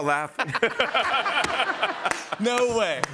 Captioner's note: laughter